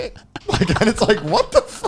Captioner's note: laughs